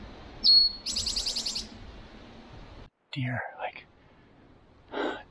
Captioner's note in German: flüstert